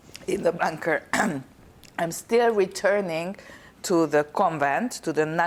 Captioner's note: clears throat